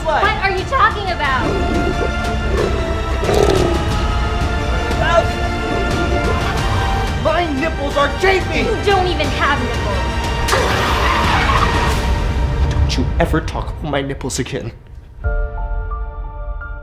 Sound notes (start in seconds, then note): 1.2 growling; 3.1 biting